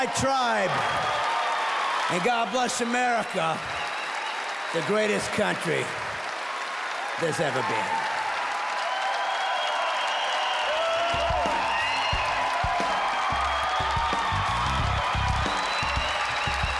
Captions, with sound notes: God bless you Texas! God bless my tribe! [audience cheers] And God bless America! [more applause] The greatest country... that's ever been. [louder cheers]